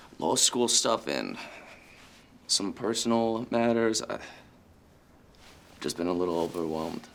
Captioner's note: sighs